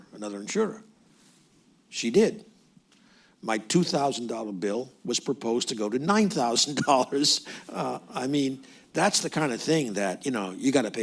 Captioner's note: laughs